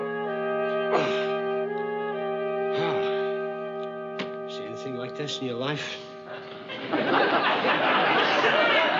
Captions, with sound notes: ( YAWNING ) Ohhh! Ah. Did you ever see anything like this in your life?